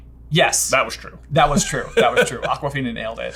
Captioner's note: laughing